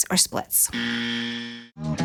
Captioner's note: buzz